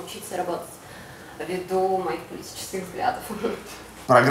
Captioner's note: chuckles